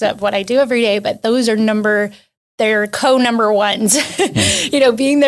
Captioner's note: laughs